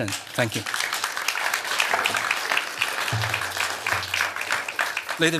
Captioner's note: applause